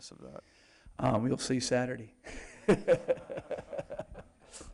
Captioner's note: laughs